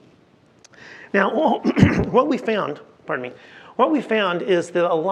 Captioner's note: clears throat